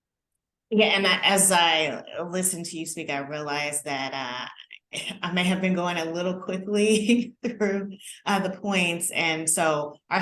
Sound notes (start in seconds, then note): 7.0 laughter